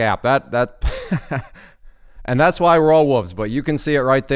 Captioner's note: chuckling